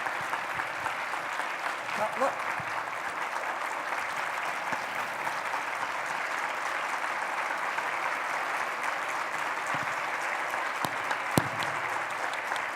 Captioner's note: applause